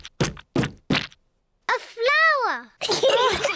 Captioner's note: all laugh; giggles